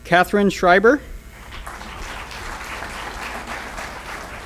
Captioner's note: applause